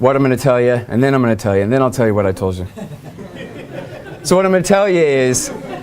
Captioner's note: laughter